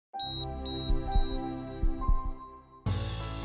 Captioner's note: monitor beeps; upbeat music